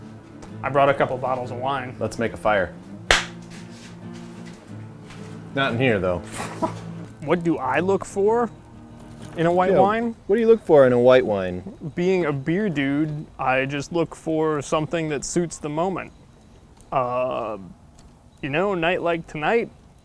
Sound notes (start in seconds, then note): 3.1 clapping; 6.4 laughs